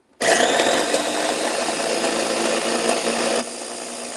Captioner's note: blender whirling